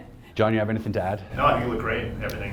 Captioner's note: laughs